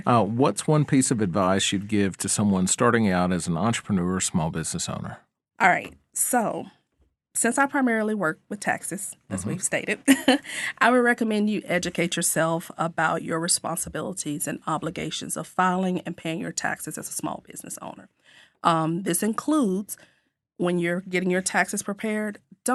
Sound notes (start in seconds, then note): 9.8 chuckles